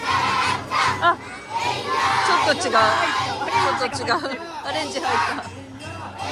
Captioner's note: laughs